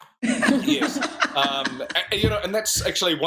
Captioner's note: laughter